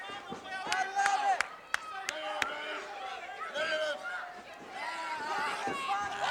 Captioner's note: claps